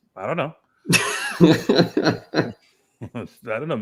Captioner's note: laughter